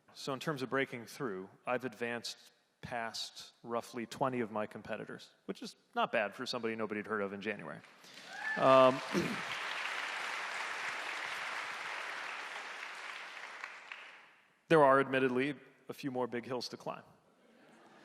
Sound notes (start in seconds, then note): 7.8 audience applauding; 17.8 audience laughing